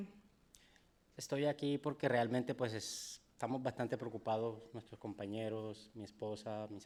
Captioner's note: speaking in foreign language